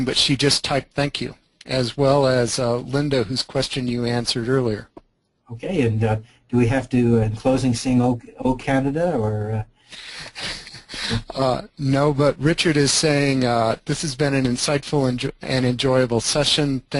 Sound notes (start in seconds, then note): 9.9 laughs